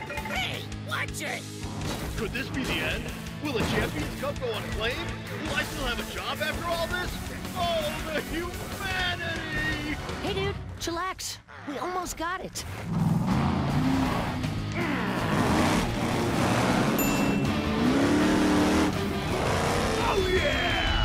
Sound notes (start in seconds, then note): 14.5 growling; 15.3 revving